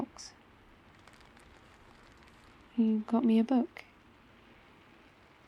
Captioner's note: rustling bag